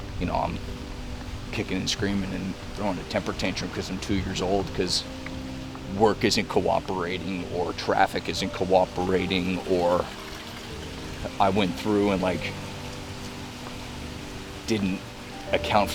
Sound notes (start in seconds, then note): none